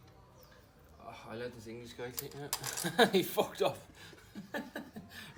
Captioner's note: laughing